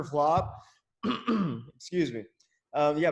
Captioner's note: throat clearing